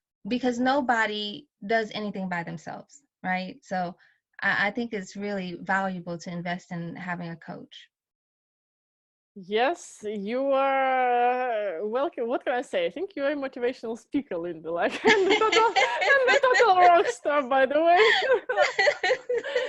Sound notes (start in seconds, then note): 15.0 laughing